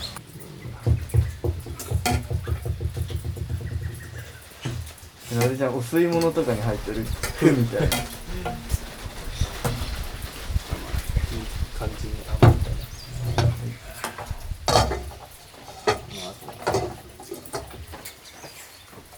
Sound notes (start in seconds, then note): 13.0 laughs